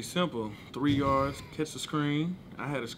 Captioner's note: laughing